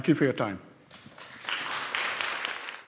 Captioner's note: applause